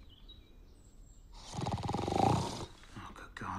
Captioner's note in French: ronflement